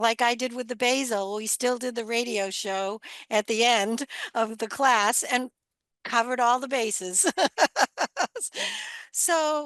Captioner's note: laughs